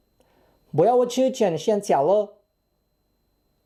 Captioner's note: in chinese